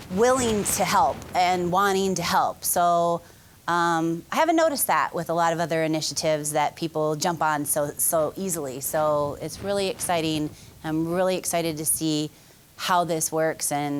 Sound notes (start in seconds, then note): none